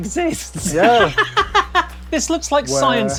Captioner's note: laughs heartily